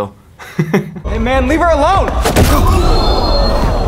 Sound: laughs; violent punch thuds; microphone squeals; crowd gasps

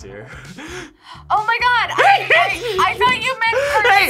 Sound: laughs

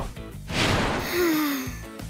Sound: sighing

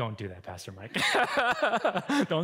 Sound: laughing

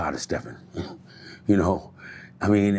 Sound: giggles

